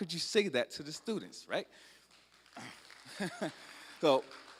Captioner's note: applause